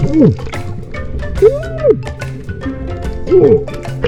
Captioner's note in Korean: 감탄